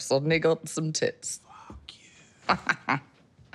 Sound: whispering; laughs; sighs

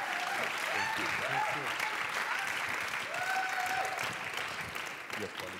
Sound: applause

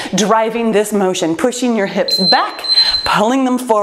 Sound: timer beeps

